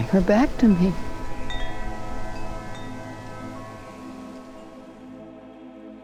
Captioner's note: wind chime chiming; soft music